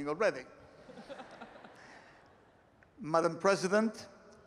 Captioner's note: laughter